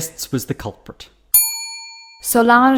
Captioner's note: bell ring